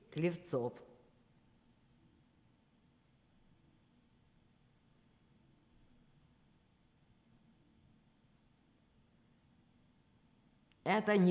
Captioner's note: pause 9 seconds